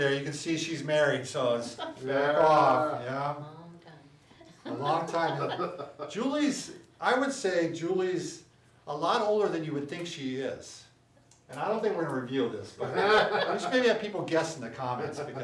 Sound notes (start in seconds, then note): 4.4 laughs; 12.9 laughs